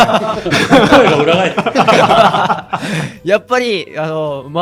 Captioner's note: laughs